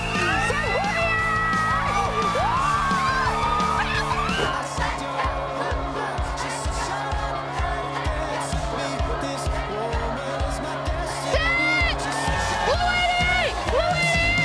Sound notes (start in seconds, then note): 1.7 cheering